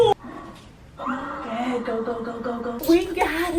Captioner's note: blowing out a deep breath